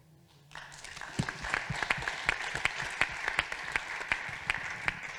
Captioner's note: audience applauding